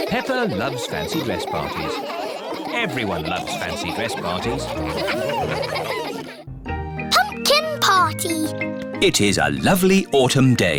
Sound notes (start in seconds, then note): 4.7 all laugh